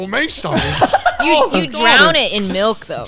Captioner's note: laughing